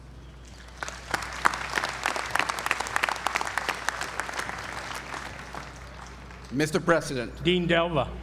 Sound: applause

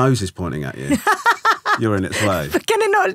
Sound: laughing

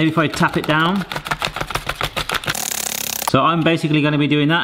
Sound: box rattling

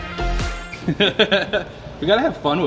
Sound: laughing

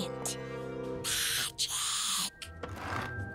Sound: whispering

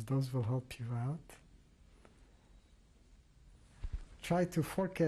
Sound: pauses for 3 seconds

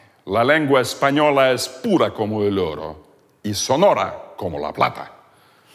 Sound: speaking Spanish

